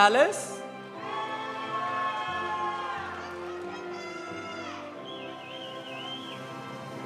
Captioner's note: audience applauding; audience cheering